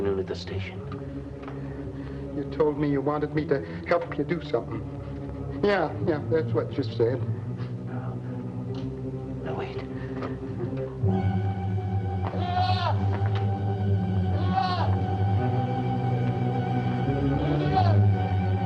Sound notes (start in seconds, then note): 11.4 dramatic music; 14.3 goat bleating